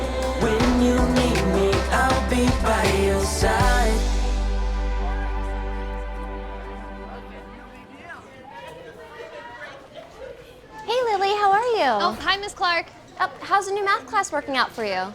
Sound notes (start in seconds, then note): 4.9 students walking and talking